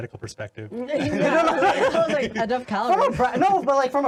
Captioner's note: laughing